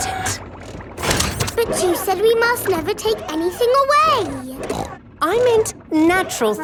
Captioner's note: snorts